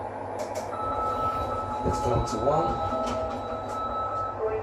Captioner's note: Chime from Lift